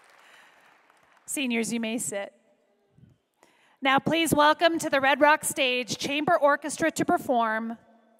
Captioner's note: applause